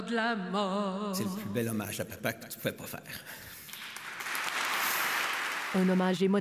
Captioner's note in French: applaudissements